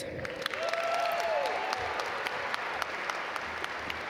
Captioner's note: audience applaud